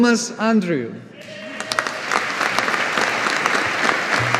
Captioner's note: audience applauding